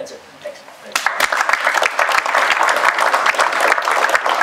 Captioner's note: applause